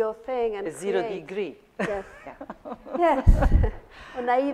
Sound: laughs

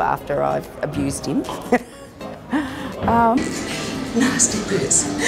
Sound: laughs

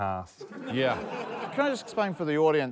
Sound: laughter

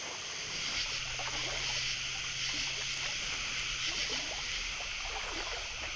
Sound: sounds of insects

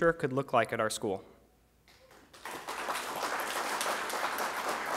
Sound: applause

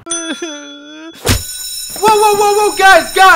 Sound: bell ringing

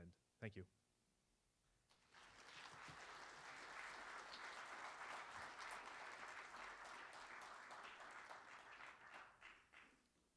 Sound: applause

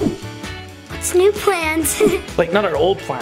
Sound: laughs

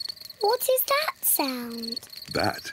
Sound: crickets chirping

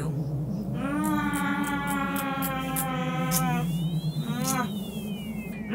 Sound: smacks lips; Mytra continues moaning and smacking lips

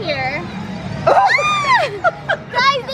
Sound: both screaming

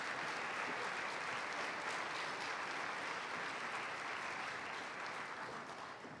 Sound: applause

